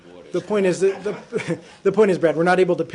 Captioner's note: laughter